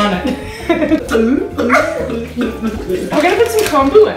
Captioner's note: laughs; fake gulping